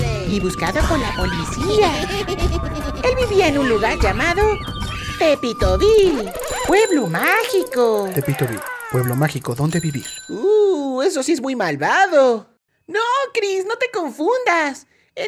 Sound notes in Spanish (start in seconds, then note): 1.0 Risa , chillido de mono; 7.6 Sonido grito de apache